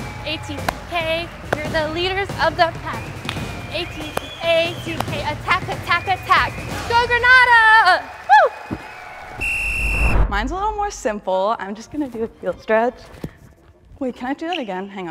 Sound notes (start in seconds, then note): 8.4 crowd cheering; 9.2 whistle blowing